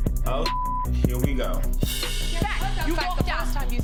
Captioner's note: beep